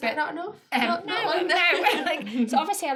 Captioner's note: laughter